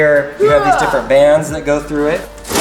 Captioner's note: yelling